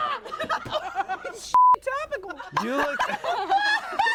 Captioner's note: everyone laughs; beep; everyone laughs